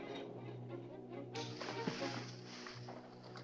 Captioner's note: snapping